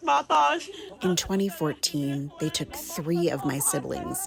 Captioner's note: through translator